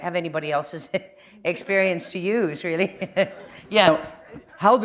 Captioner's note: chuckle